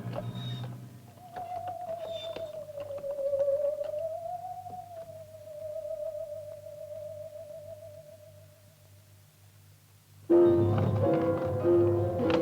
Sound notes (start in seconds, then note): 0.0 cart wheels creaking; 0.7 eerie music